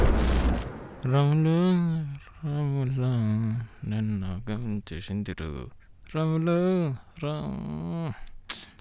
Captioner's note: Humming Song